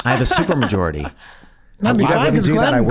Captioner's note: laughs